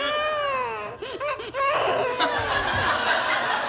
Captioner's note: baby crying